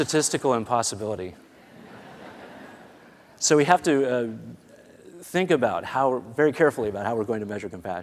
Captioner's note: laughter